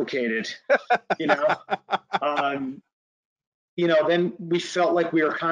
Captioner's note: laughing